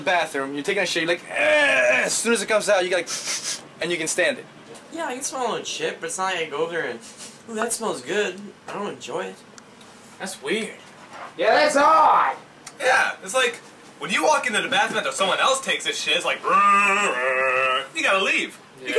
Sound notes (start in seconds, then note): 3.1 sniffing; 7.1 sniffing